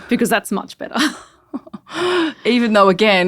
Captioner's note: giggles